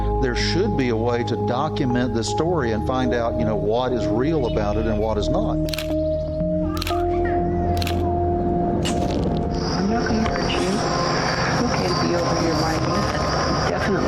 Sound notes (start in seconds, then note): 6.1 camera clicking